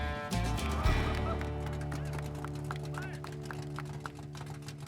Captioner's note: people applauding